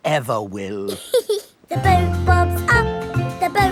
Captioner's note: giggles